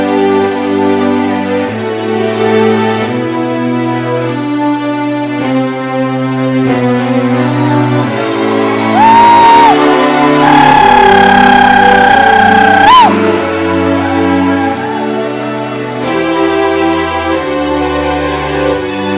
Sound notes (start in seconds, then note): 8.4 cheering; 13.2 classical orchestral music